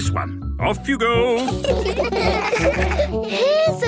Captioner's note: laughter